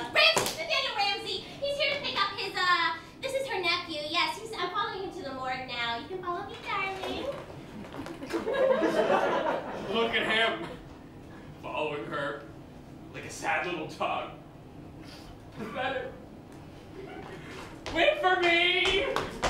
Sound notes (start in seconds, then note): 7.9 laughter